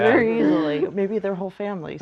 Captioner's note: laughing